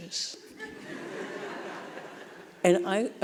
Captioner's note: audience laughing